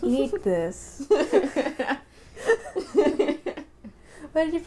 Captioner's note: laughter